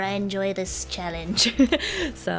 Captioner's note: laughs